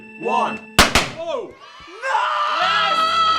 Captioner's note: cannons popping; children cheering